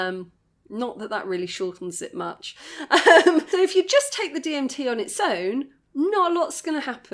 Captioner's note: laughing